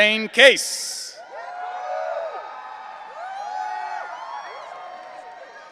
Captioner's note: audience cheering